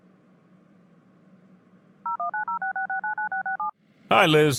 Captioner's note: phone dialing